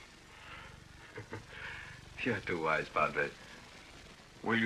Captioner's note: laughs